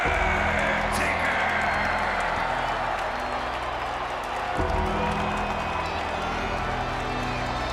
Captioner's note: crowd cheers; eerie funeral music plays